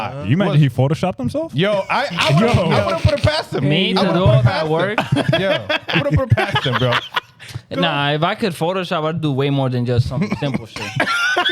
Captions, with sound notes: You mean he photoshopped himself? Yo, I would've put him past him. Me, I would've put him past him. (Laughing) I would've put him past him, bro. Nah, if I could photoshop, I would do way more than just some simple shit.